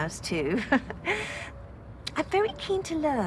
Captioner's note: she chuckles